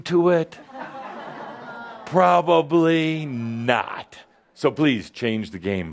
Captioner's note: some laughter